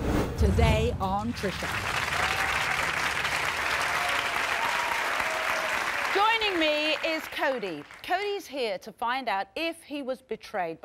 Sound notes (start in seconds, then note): 0.4 voiceover; 1.3 audience applauding